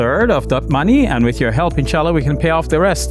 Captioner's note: speaks foreign language